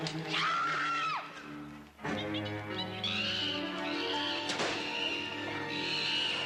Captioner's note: dramatic music; Shareen screaming; monkey screeching